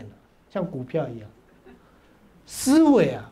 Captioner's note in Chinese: 哈哈哈